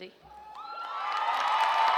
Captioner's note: cheers